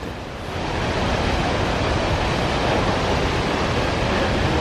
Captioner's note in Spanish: sonido ambiente del Salto El León, ¡es bellísimo!